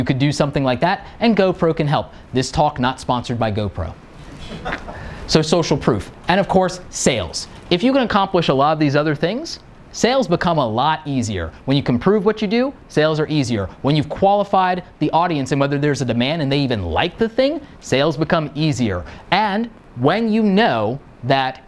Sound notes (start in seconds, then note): 4.2 laughing